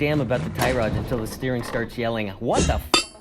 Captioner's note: metal clank